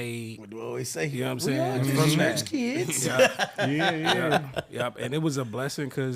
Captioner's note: laughing